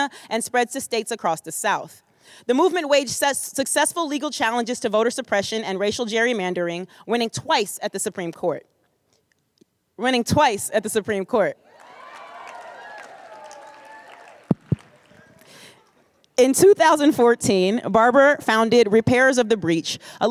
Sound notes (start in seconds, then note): 11.7 applause